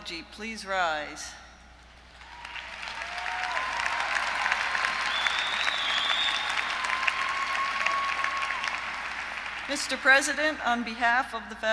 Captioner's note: applause